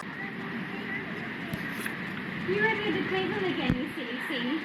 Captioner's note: people chattering; waves crashing; static buzzing